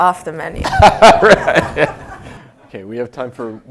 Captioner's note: laugh